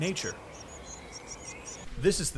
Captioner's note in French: bruits d'oiseaux